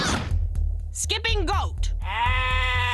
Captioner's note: goat bleating